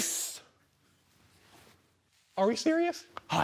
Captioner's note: rustling